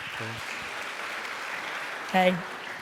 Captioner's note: cheering